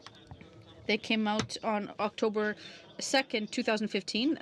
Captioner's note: speaking french